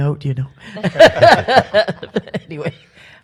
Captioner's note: panel laughs